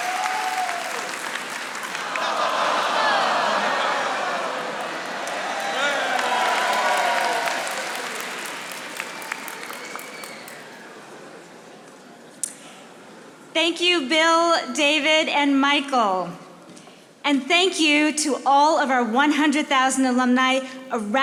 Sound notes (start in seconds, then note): 1.6 audience laughing